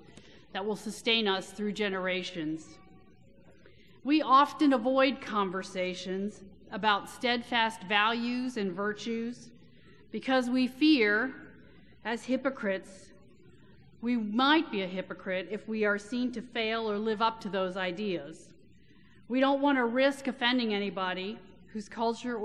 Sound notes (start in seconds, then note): none